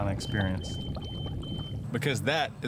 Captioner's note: beeping